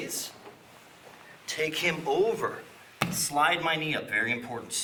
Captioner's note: soft thumping